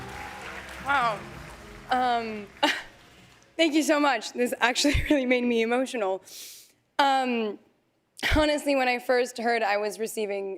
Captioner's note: cheers and applause